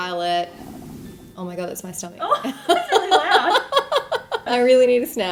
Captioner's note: laughing